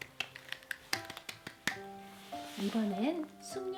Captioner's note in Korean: 짝짝짝짝